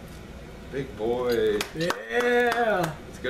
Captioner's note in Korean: 박수갈채